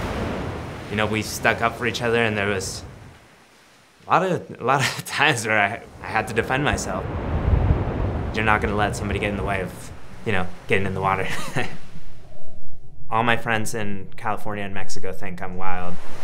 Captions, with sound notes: You know, we stuck up for each other and there was a lot of times where I had to defend myself. You're not gonna let somebody get in the way of getting in the water (laughs). All my friends in California and Mexico think I'm wild.